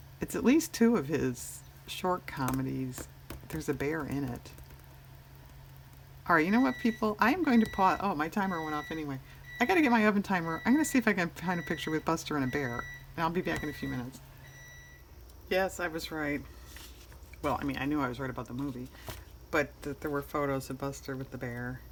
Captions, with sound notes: it's at least two of his short comedies, there's a bear in it all right you know what people, i am going to put-- (electronic beeping) oh my timer went off anyway-- i have to get my oven timer i'm going to see if i can find a picture with Buster and a bear, and i'll be back in a few minutes yes i was right-- well i mean i knew i was right about the movie, but that here were photos of Buster with the bear